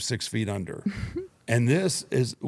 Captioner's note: chuckles